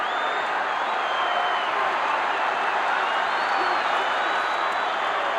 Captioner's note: crowd cheers